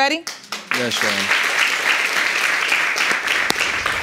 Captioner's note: audience applauding